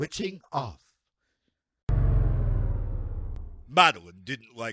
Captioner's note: sound of a device powering off